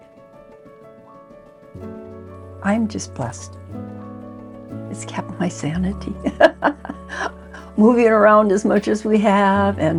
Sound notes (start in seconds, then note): 0.3 gentle music; 6.3 laughs